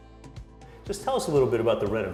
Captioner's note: voiceover